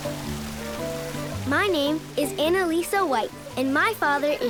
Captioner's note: water flowing